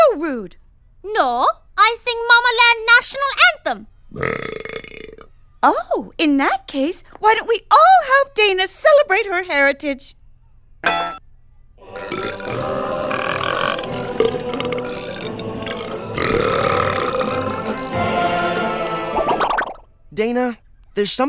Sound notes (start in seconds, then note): 4.1 burps; 11.8 burping along; 14.9 burping